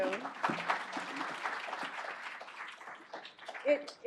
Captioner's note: applause